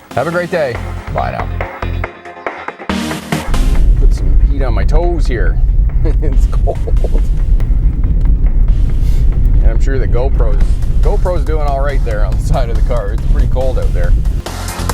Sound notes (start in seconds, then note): 1.9 upbeat music; 6.5 laughs; 14.7 upbeat music